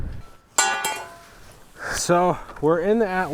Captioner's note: metal clanging